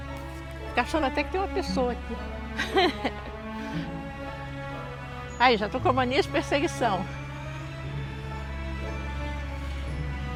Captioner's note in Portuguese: risos